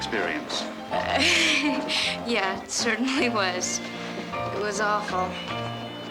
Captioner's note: mary giggles